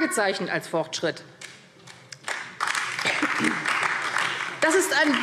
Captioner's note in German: Beifall AfD